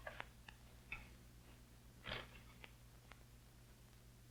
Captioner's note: paper tearing